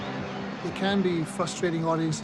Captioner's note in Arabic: موسيقى روك هادئة; أشخاص يتحدثون بصوت خافت